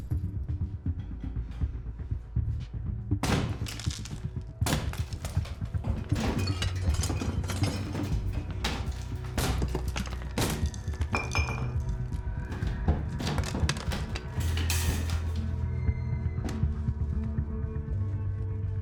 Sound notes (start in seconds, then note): 0.1 wall smashing; 4.6 plasterboard breaking; 8.1 very loud banging